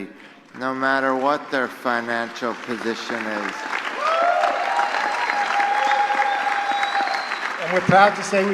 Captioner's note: applause